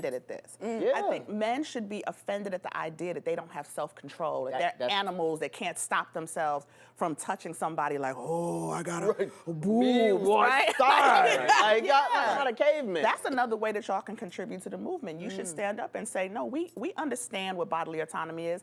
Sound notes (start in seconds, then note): 10.3 laughs